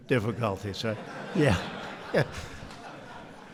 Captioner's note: laughter